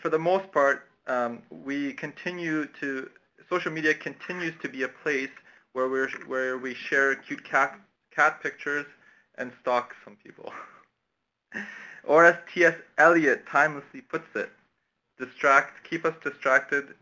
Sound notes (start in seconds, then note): 11.5 laughter